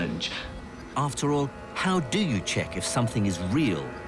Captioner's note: voiceover